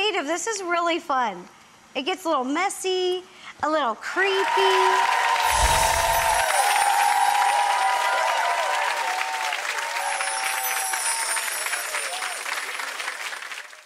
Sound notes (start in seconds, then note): 4.2 audience applauds and cheers